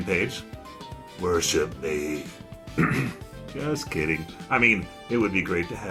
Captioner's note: clears throat